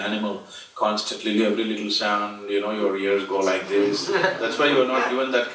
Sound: laughter

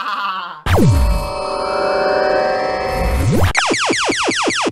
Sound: maniacal laugh; Poolinator firing up; lasers shooting

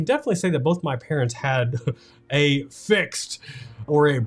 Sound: chuckles

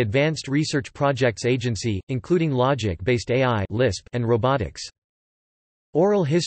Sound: lisp

